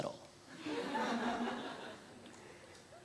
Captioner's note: audience laughter